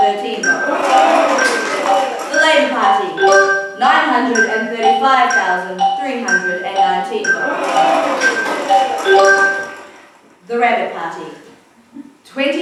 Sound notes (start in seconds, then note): 0.5 cheers; 7.4 cheers